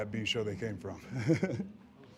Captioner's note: laugh